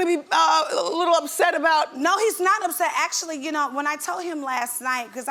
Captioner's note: none